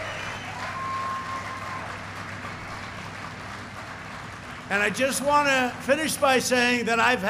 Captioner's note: applause